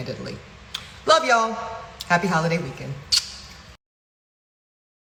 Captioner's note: kisses